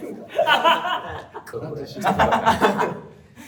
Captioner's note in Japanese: 笑い声